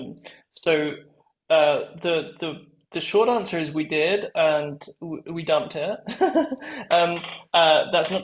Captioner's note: laugh